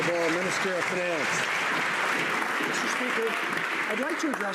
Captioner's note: some Applause